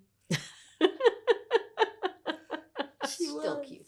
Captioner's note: laughing